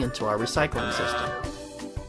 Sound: buzzes

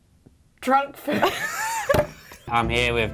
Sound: both laughing

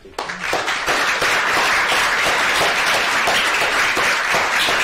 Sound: applause

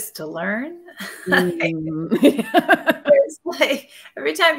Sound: laughing

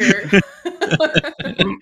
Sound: laughter

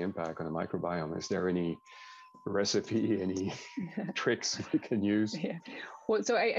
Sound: laughs

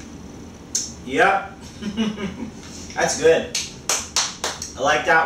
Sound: laughter

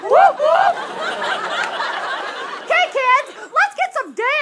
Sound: audience laughter

